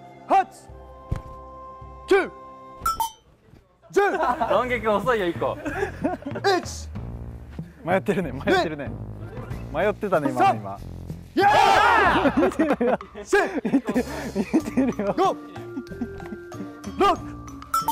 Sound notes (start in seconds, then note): 14.8 laughs